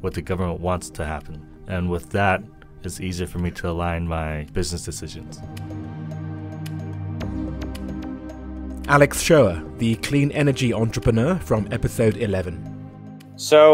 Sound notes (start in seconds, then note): 5.9 voiceover